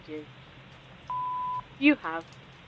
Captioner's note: beep